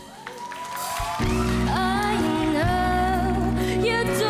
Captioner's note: audience cheering